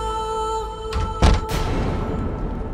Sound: door closing

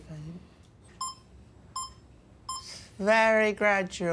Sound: beep, beep, beep

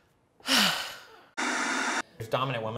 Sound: sighs; static buzzing

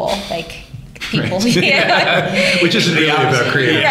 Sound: laughter

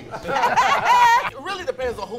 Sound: laughing

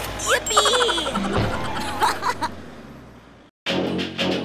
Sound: giggles; truck engine rumbles; upbeat music

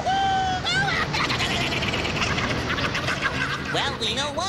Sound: laughing

